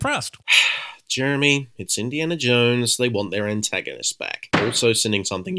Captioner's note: sigh